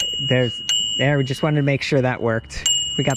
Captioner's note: rings